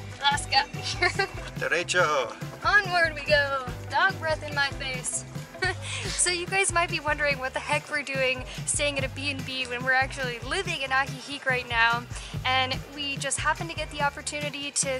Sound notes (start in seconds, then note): 0.8 laughter; 5.6 laughter